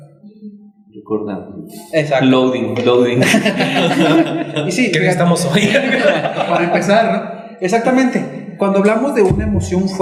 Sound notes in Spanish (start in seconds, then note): 3.1 risas